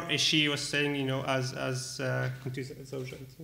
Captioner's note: speaking arabic